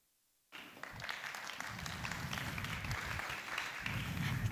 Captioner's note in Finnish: Aplodeja